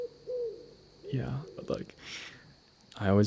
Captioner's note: nighttime forest ambience